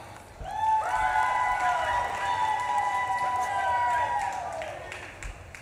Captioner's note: audience claps and cheers